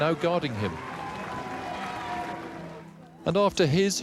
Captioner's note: audience cheering